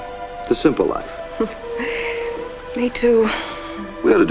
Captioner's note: chuckle